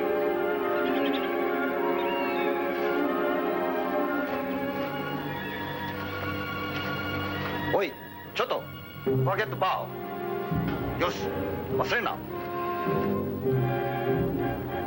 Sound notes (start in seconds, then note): 7.8 speaking foreign language